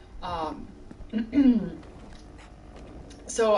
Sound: clears throat

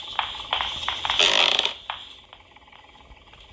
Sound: footsteps; creaking sounds

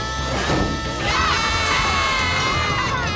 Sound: yelling

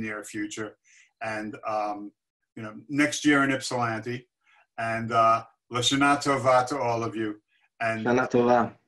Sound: non-english speech

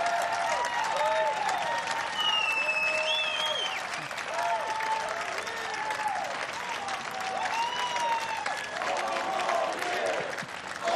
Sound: applause

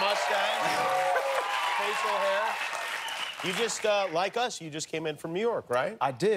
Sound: applause

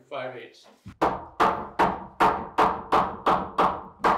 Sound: hammering

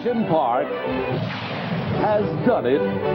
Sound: explosion

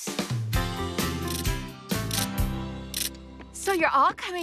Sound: ratchet Clicking

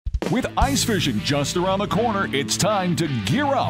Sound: voiceover

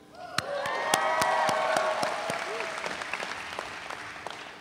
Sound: audience cheering

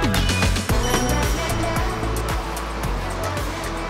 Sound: ding dong

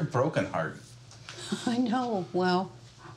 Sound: chuckling

